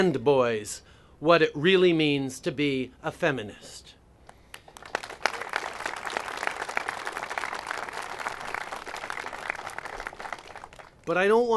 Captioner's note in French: Applaudissements